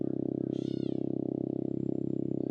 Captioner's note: bird chirping